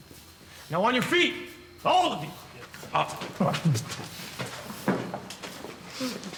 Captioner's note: none